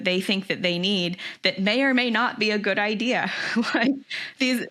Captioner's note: laughs